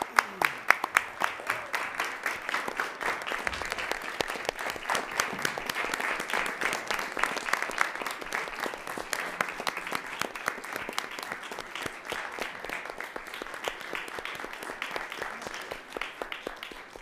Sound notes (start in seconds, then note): 2.0 applause